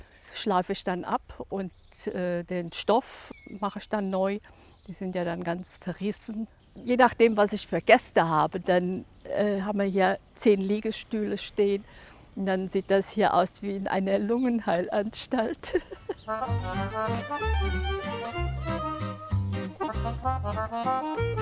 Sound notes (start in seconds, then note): 15.4 chuckles; 16.2 lively music